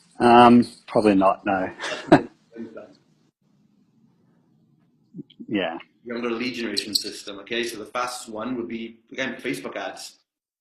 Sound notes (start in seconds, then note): 1.8 laughs